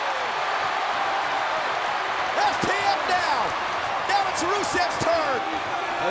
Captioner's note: crowd cheering